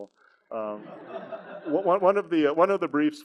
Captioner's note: audience laughs